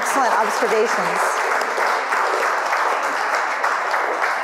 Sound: audience clapping

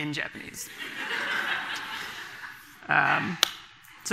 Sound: audience laughing

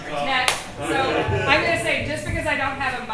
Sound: claps

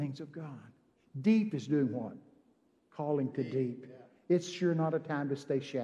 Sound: congregation amens

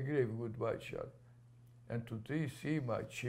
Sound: non-english

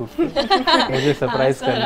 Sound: laughs

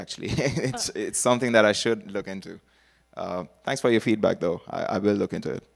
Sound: laughter

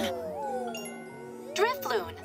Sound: Pokémon cooing; chimes

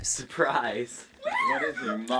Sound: laughing

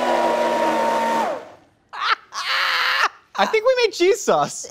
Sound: laughing

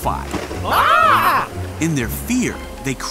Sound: disciples yelling

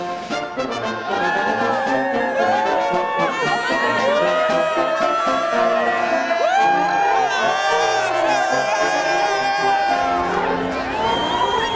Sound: applause

